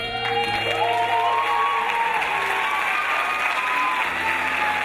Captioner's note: crowd applauds and cheers